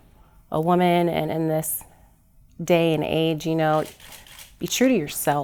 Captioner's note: camera clicking